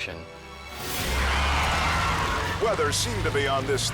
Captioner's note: tires screeching